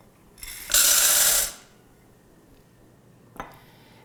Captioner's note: beans clinking in pan